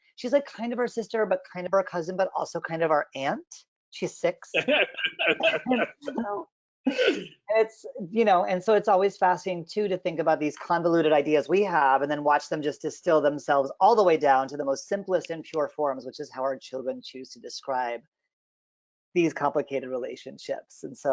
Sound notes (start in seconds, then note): 4.6 both laughing